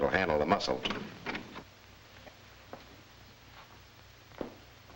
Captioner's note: door clicks open